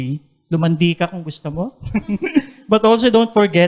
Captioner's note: chuckles